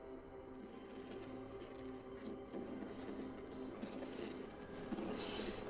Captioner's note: soft dramatic music; scraping